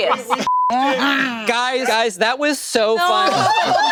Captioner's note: group laughing; beep